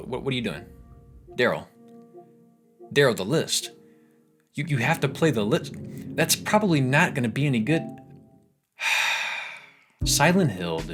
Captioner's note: sighing